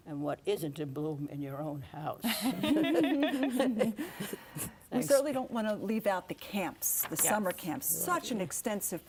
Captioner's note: laughing